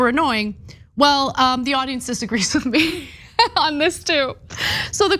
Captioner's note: laugh